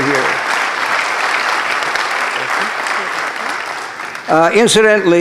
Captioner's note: applause